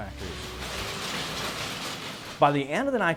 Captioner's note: machines clanging